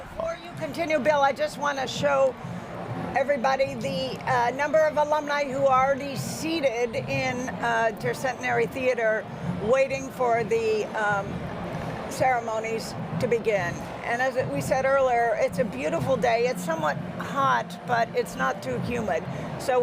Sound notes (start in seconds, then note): none